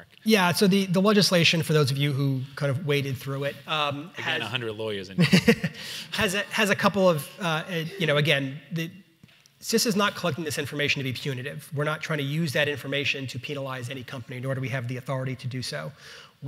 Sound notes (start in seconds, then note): 5.1 chuckles